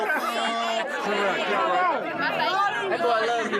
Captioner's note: crowd chatter